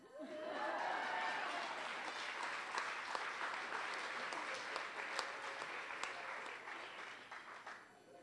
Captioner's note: audience laughing, applauding